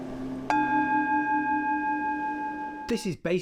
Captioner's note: gong rings